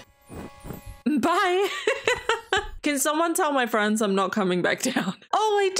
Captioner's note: laughs